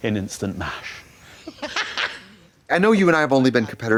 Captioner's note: Alison laughing